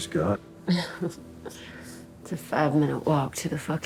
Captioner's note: laughs